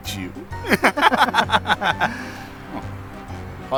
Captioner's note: synchronized laughter